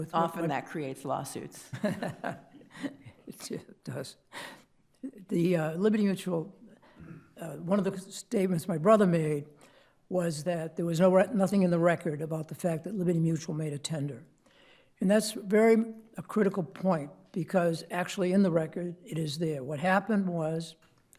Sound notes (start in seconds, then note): 1.7 chuckles